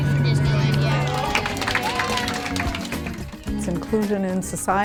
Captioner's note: cheers and applause